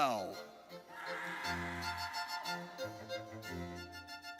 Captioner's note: audience cheers; triumphant music